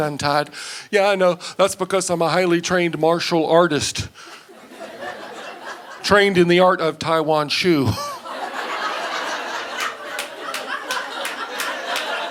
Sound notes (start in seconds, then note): 7.8 audience laughing